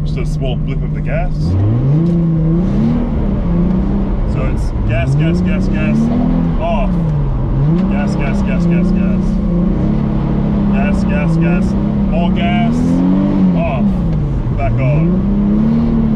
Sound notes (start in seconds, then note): 1.8 car engine revving